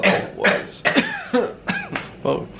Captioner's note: both coughing